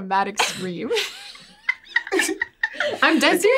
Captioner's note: everyone laughs